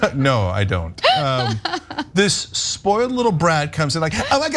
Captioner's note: laugh